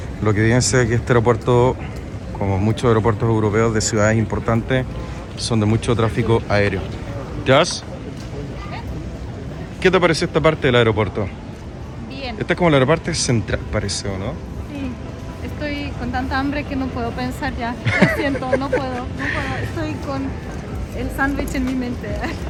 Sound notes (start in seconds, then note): 17.8 laughs